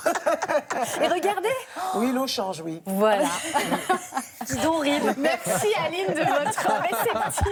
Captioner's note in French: rires